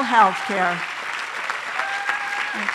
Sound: applause

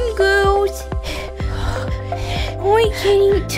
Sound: huffing and puffing

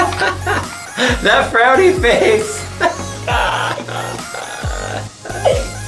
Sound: laughs

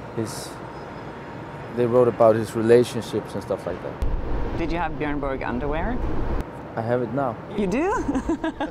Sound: laughs

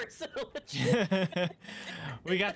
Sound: laughing

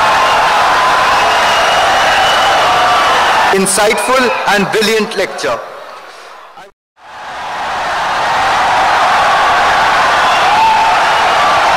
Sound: wild applause and cheering for 17 seconds

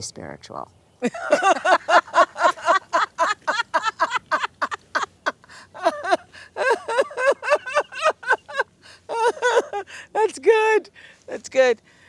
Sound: laughter

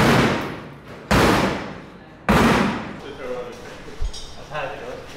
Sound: metal clanking

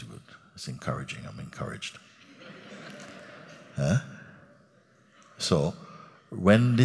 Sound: laughter

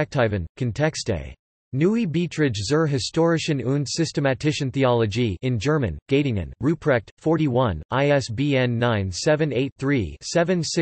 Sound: in German

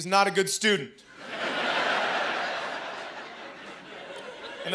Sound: laughter

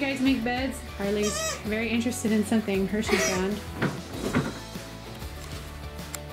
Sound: squeak

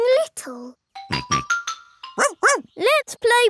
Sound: snorts; barks

